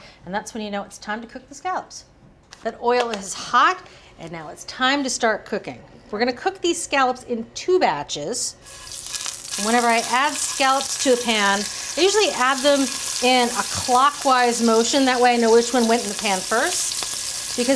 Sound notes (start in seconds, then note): 8.9 scallops sizzling